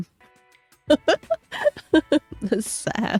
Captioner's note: laughs